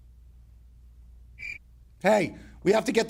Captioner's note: cricket chirping